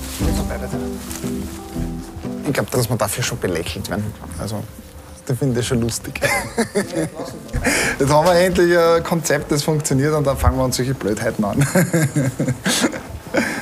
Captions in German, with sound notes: Ich glaube, dass wir dafür schon belächelt werden. Also, die finden das schon lustig. (Er lacht.) Jetzt haben wir endlich ein Konzept, das funktioniert, und dann fangen wir solche Blödheiten an.